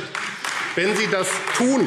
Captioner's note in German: Beifall AfD